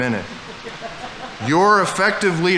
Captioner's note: audience laughing